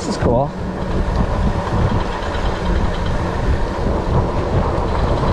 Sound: bike motor rumbling

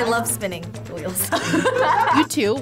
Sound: both laugh

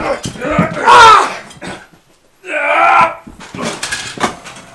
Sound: man grunts in pain; Jason grunts

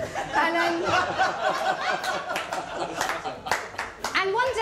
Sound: laughter

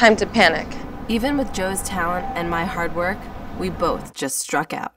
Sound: voiceover

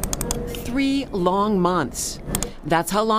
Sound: typing

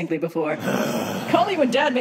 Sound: Jesus groans

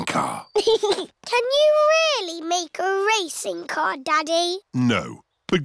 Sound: chuckles

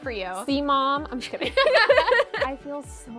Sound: both laugh

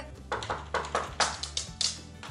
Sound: knocking at the door

